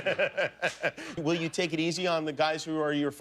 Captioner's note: laughter